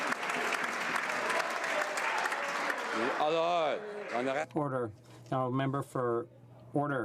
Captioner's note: some Applause